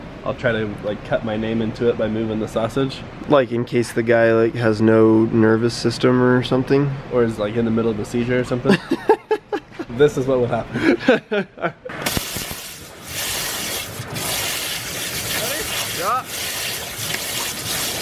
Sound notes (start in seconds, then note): 8.7 laughing; 12.0 water blasting